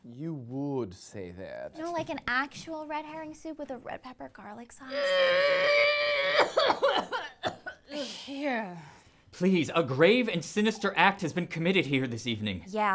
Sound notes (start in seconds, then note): 6.2 coughs loudly